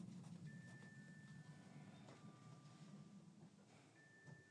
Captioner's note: ringtone tinkling